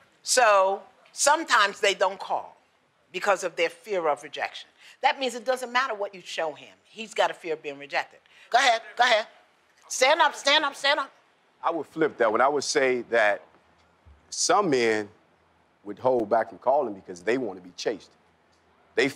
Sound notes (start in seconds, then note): none